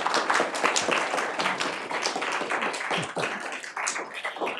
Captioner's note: people clapping